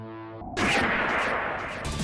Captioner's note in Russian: бууумм